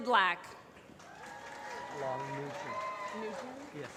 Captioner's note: applause